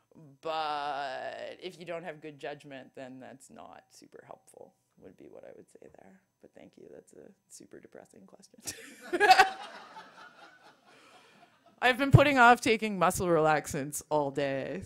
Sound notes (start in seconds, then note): 9.0 laughs; 9.0 audience laughs